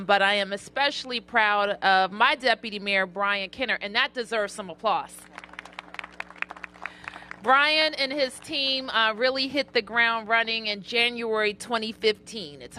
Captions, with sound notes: BUT I AM ESPECIALLY PROUD OF MY DEPUTY MAYOR BRIAN KENNER. AND THAT DESERVES SOME APPLAUSE. [APPLAUSE] BRIAN AND HIS TEAM REALLY HIT THE GROUND RUNNING IN JANUARY 2015.